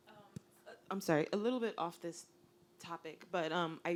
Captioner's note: voiceover